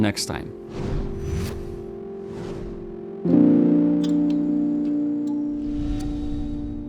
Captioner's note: calming music; logo whooshing